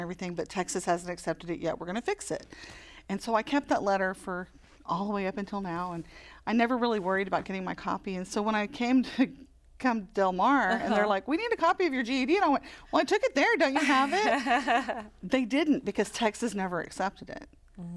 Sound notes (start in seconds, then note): 13.8 laughter